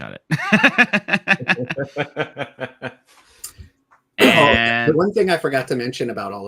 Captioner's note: laugh